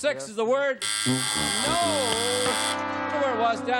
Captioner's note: buzzer